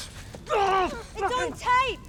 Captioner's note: Riley grunting